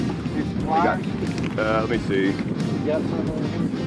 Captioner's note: fisherman speaking softly